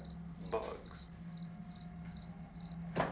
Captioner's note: crickets chirping